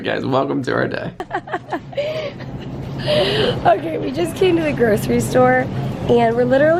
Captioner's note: laughing